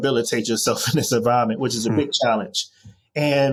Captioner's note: chuckles